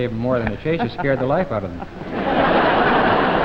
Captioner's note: laughing; audience laughing